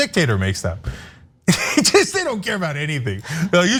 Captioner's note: laugh